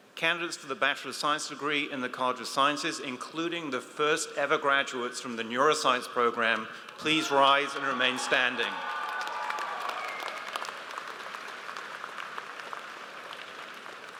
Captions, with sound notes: - Candidates for the bachelor of science degree in the College of Sciences, including the first ever graduates from the neuroscience program, please rise and remain standing. (audience applauds)